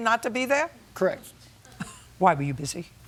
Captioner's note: laughter